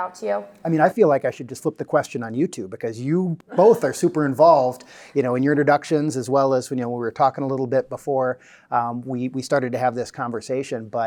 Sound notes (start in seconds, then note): 3.5 both students laugh